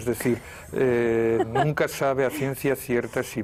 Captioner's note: ríen